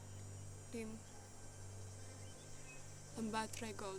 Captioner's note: none